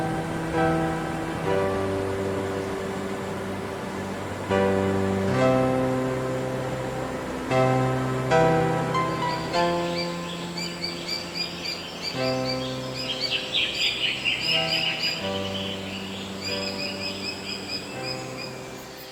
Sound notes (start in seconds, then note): 2.1 water running sounds